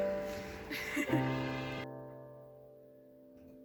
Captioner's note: laughs